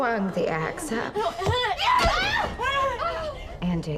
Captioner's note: chaotic noises from crime scene play